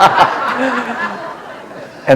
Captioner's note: laughter